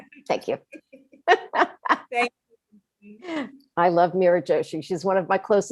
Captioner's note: laughs